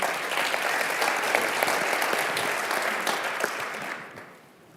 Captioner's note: audience clapping